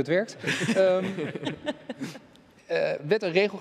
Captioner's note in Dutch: ze lachen